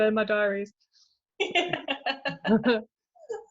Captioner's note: laughs; chuckles